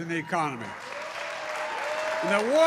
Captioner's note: applause